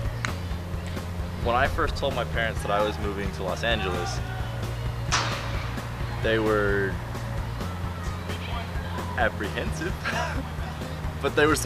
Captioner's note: laugh